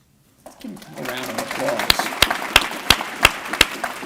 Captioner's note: applause